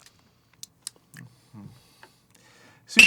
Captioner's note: making wet mouth noises as he tastes